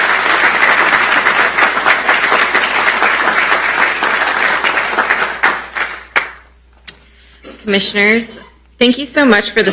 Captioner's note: applause